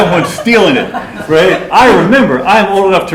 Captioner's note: laughter